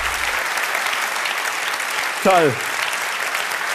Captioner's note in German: Applaus